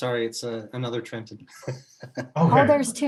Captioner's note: laughing